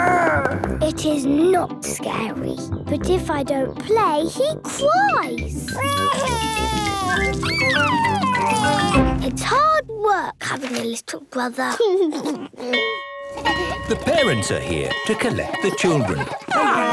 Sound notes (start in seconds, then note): 0.1 growls; 5.8 crying; 12.8 bell ringing; 13.3 giggles